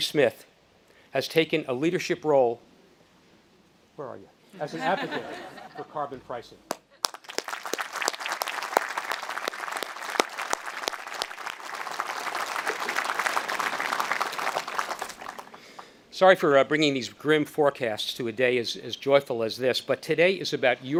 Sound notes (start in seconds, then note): 4.6 audience laughing; 6.9 speaker and audience applauding